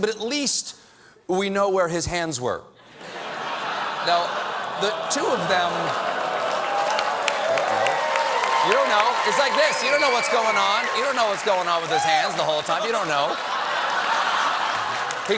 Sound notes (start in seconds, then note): 4.5 laughter; 5.4 applause